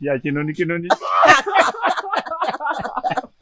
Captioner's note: laughng